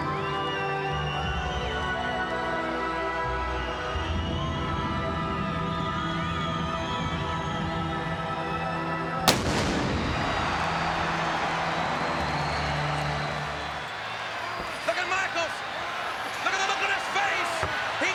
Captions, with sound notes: (solemn funereal music continues) (thunder crashing) Look at Michaels. Look at the look on his face.